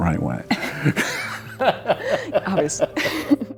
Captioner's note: they laugh